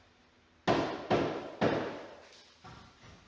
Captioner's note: hammering